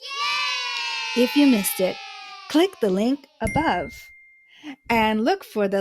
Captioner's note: children exclaiming, "yay!"; ding sound